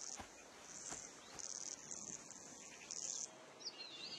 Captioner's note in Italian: cinguettii